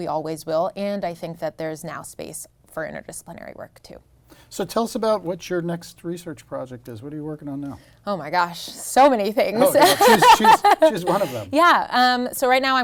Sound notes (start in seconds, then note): 9.6 laughs